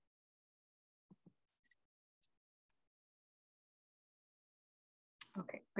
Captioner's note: silence